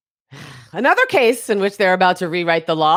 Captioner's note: scoffs